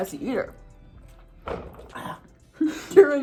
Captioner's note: knocks elbow on the table